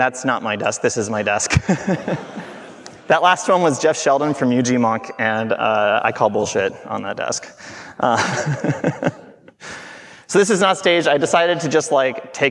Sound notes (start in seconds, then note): 1.5 everyone laughing; 8.0 laughing